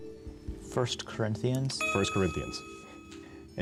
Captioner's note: buzzer